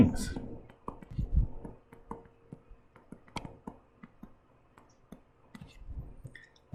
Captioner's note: writing Sounds